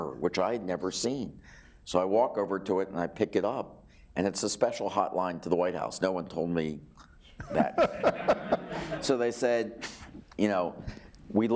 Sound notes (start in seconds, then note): 7.4 laughing